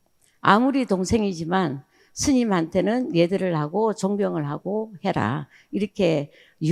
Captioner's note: speaking in foreign language